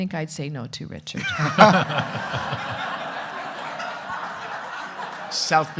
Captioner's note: everyone laughing